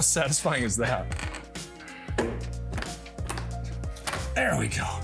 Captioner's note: tearing